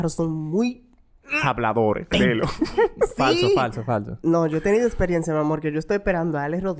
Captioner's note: laughs